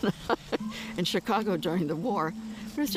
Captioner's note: laughs